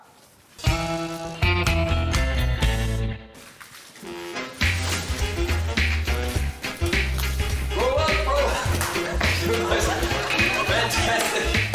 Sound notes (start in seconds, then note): 0.6 quirky music; 4.1 upbeat music; 7.6 laughs